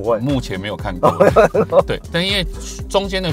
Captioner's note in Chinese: 哈哈哈